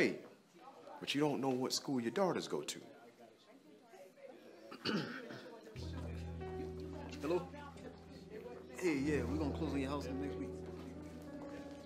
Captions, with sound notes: but you don't know what school your daughters go to? - (clears throat) Hello? Hey, yeah, we gonna close the house deal next week.